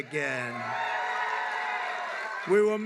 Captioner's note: applause